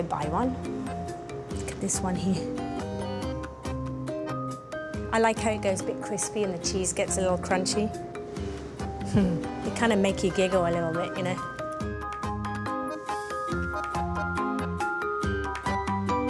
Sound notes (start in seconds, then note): 9.1 chuckles